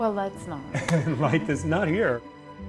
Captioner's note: laughter